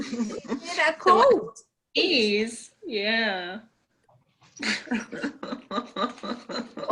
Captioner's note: parent laughing